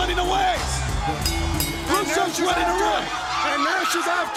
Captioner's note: bell ringing